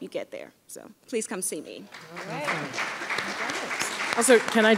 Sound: audience applauding

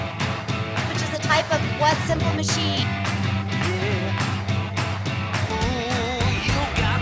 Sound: upbeat rock music; voiceover

